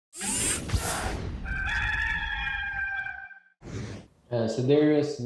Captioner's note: zooming tones; rooster crowing